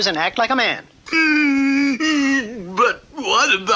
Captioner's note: King Cup stops crying